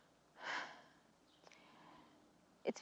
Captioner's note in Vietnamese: Thở dài